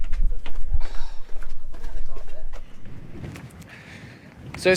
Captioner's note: feet clicking